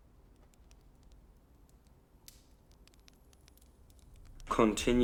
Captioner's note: fire crackling